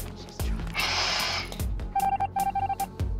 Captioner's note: whispering; shhhhing; machine beeping